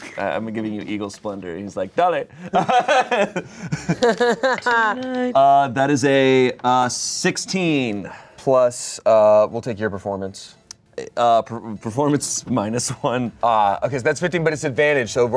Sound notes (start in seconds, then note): 2.4 laughs